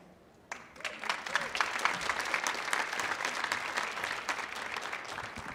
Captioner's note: audience applauding